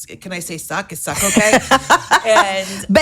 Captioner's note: laughing